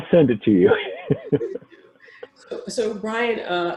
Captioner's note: laughs